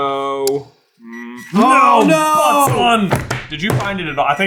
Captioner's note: gentle beeping